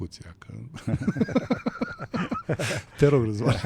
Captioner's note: laughter